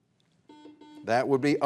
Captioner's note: buzzer buzzes